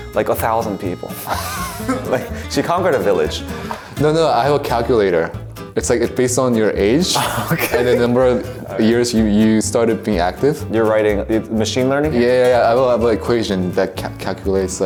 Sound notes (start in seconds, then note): 1.2 both laughing